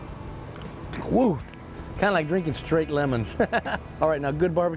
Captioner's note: laughs